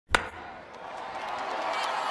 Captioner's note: baseball bat hitting ball; cheering